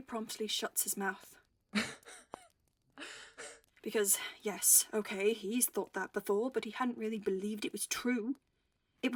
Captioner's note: he laughs